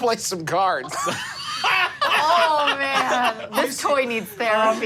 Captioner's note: laughing